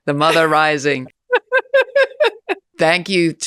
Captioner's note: Naomi laughing